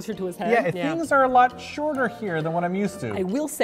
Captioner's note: voice-over